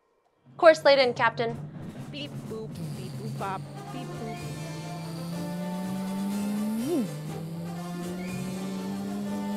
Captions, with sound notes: - Course laid in, Captain. (buttons beeping) (engines rumbling)